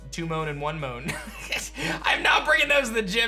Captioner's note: chuckles